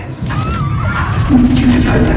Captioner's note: warped sounds